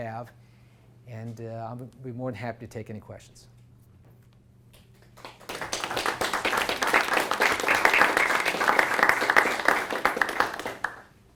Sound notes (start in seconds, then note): 5.0 applause